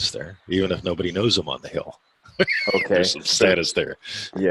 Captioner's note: laughing